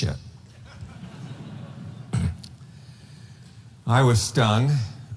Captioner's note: audience laughing